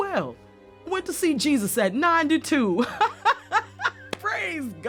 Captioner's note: laughs